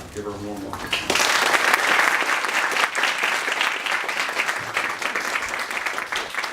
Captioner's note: applause